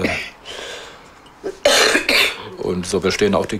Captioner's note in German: hustet